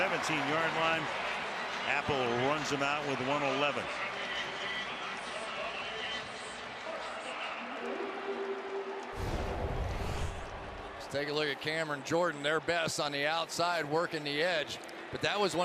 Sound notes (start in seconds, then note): 8.4 horn; 9.1 swoosh